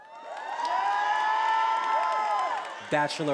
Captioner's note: attendees applauding and cheering